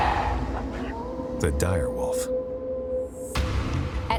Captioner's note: wolf howling